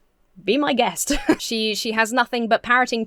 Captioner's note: chuckles